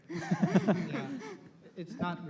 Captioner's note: laughter